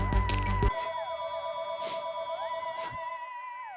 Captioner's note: phone ringing